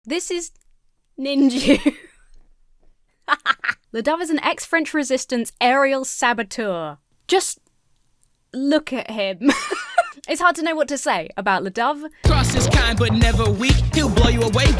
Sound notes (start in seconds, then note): 1.4 laughs; 9.4 laughs